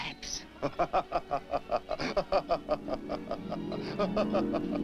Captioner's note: Hercules laughs